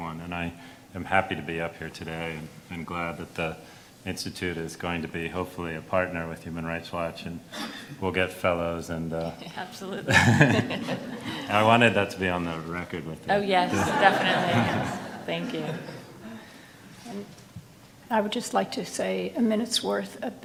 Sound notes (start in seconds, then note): 10.1 laughs; 10.1 everyone laughs; 13.6 everyone laughs